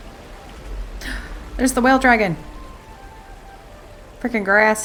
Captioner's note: gasp